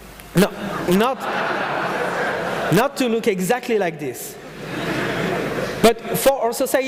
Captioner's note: audience laughing